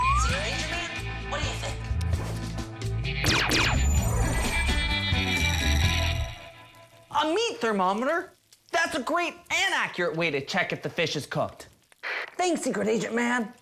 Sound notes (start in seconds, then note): 3.2 laser sfx